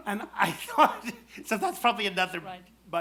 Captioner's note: laughs